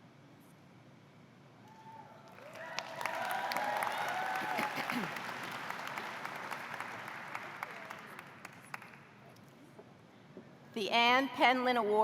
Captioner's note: cheers